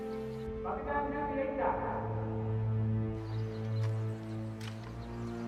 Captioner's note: man speaks in foreign language